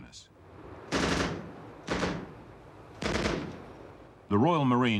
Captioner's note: gun banging